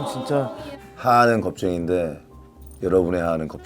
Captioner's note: haha